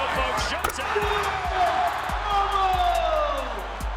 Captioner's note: crowd cheers